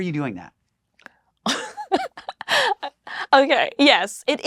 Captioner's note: laughs